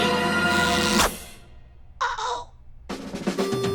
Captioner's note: squeaky voice